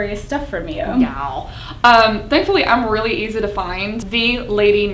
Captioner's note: silly voice